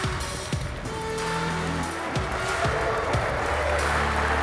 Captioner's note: applause